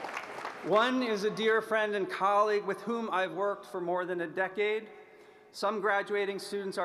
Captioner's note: applause